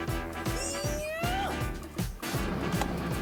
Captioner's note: frustrated cry